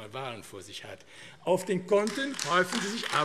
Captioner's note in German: Beifall AfD